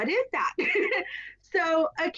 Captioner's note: laughs